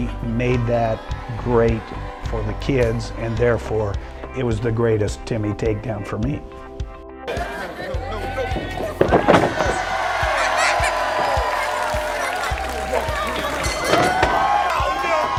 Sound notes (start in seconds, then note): 9.4 cheering